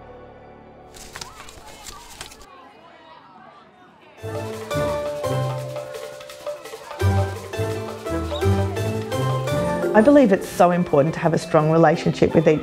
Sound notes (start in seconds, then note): 0.9 paper rustling; 2.1 people rumbling; 4.2 upbeat music